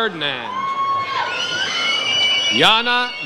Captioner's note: audience cheers